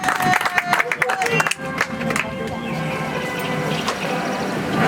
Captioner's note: audience applauds